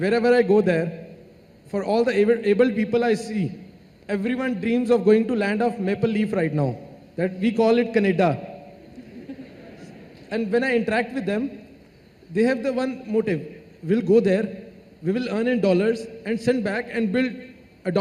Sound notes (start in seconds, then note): 8.8 laughter